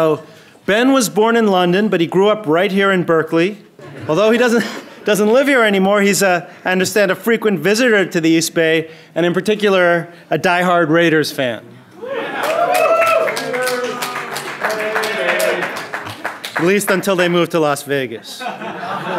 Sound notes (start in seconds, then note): 12.0 audience cheering; 18.3 audience laughing